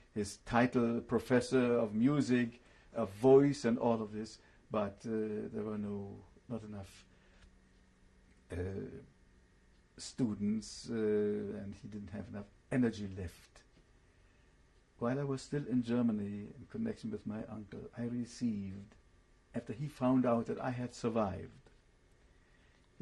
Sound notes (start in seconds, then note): 7.6 pauses for 3 seconds